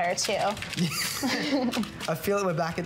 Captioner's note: laughter